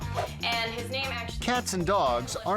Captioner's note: air whoosh